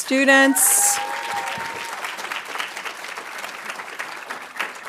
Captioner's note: audience applauding